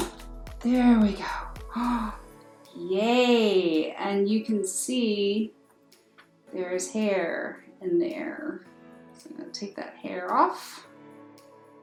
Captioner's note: sigh